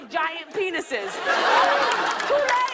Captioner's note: laughter